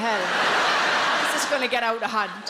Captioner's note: audience laughs